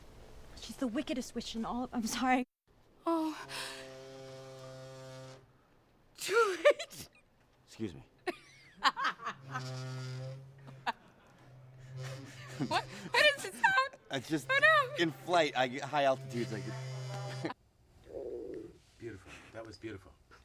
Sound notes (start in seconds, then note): 3.4 loud buzzing; 9.0 buzzing continues; 14.1 buzzing; 18.1 stomach growling loudly